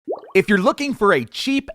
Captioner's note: water bubbling